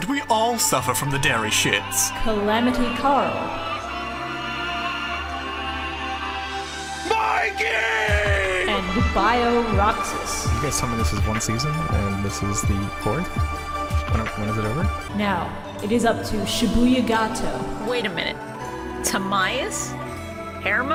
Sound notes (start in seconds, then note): 2.2 sad music continues in the BG; 10.7 quietly